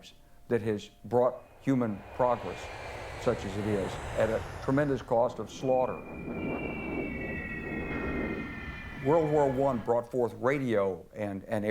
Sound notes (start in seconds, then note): 6.0 bombs whistle